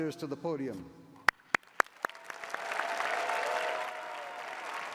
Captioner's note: cheering